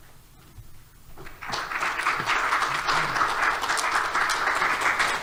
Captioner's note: audience applause